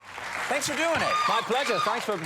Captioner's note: audience applauding